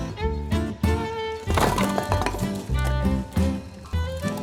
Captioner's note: wood clattering